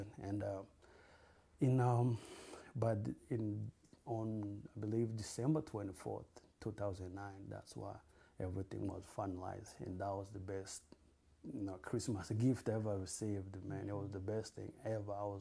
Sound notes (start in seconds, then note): none